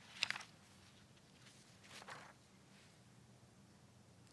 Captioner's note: paper rustling